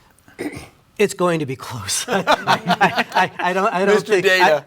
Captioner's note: panel members laugh